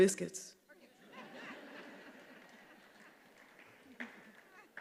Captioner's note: attendees laughing